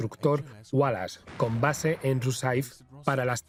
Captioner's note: gun firing